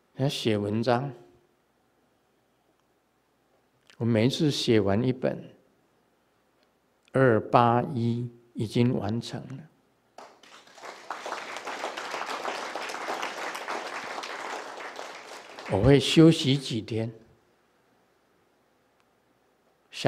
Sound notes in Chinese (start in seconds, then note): 12.7 眾鼓掌